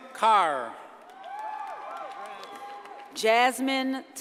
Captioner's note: audience cheers and applauds